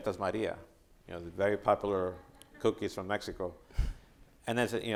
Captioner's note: chuckling